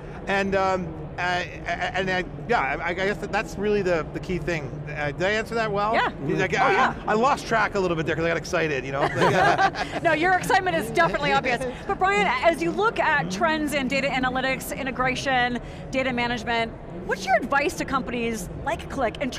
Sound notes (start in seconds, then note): 8.9 colleagues laugh